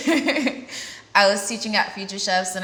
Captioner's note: laughs